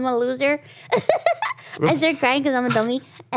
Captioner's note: Ironmouse laughs